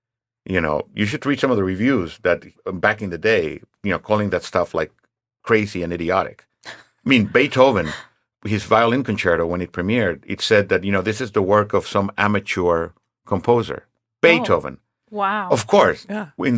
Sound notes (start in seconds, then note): 7.1 laughing